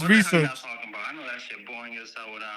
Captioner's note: non-english Speech